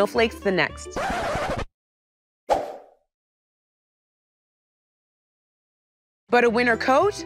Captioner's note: record scratching